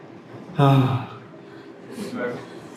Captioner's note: sigh